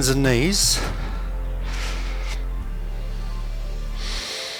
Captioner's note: inhale